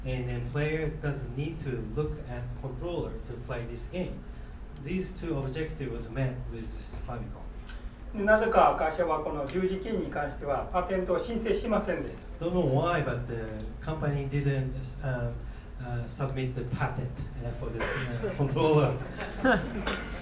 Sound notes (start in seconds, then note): 8.2 speaking in foreign language; 17.8 laughing; 19.0 coughing